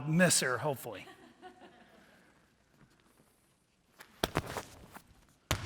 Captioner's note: audience laughing